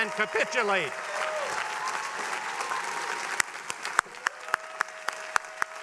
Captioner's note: attendees cheering and applauding